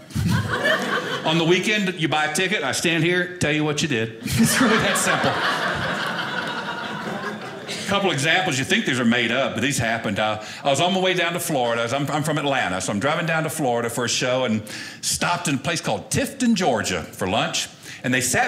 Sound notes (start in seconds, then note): 4.2 audience laughing